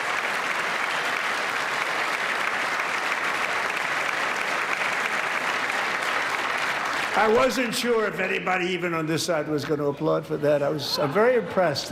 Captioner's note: applause